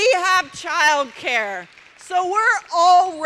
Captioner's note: applause